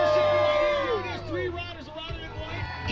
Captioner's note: crowd applauding